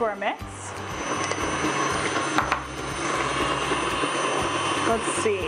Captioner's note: whirring sounds